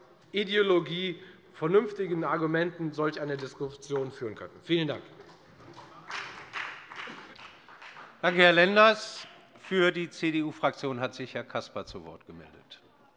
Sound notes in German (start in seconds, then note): 5.6 Beifall bei der FDP